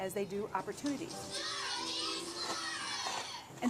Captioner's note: Audio: TV: Dora the explorer